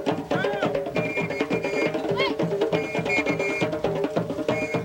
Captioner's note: people cheering